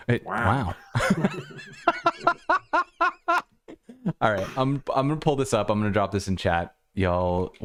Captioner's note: laughter